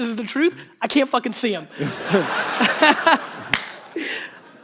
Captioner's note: audience laughter